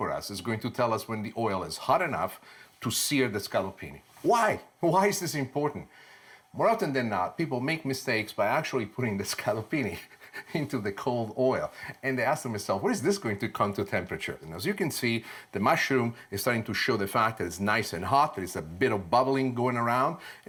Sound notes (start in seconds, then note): 9.9 laughs